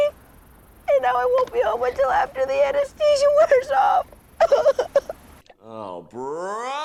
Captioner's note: feigns sobbing